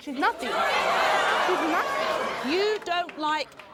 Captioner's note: audience groans